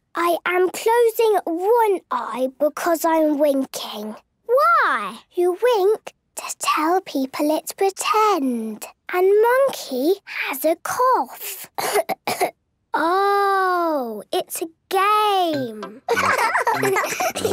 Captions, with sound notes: - I am closing one eye because I am winking. - Why? - You wink to tell people it's pretend. And Monkey has a cough! (pretending to cough) - Oh! It's a game! (laughs)